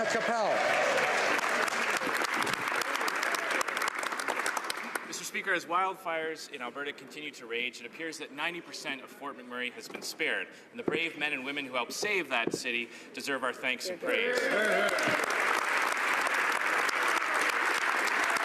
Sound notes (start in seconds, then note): 4.7 speaking French; 17.9 applause